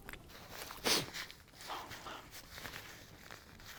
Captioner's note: sniffling